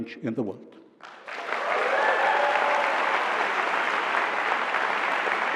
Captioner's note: applause